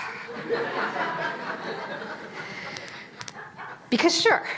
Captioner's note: audience laughing